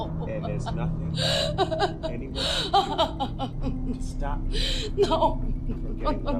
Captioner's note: sobbing; crying drowns out attackers speech